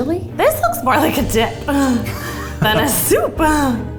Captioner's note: laughs